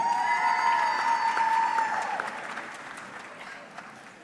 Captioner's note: audience cheering